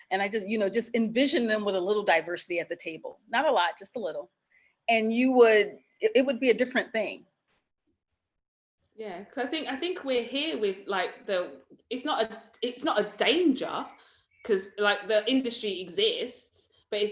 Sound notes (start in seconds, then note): none